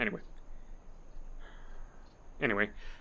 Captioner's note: sigh